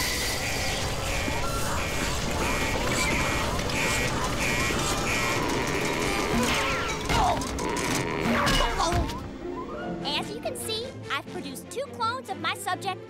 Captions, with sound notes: [alarm blaring] [grunting] As you can see, I've produced two clones of my subject